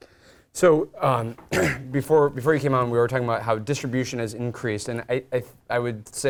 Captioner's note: cough